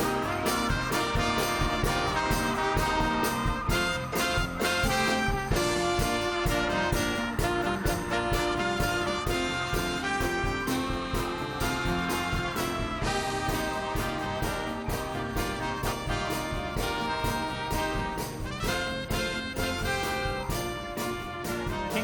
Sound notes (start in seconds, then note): 1.6 cheers and applause